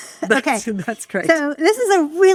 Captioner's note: laughs